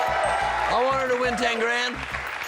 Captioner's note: cheers and applause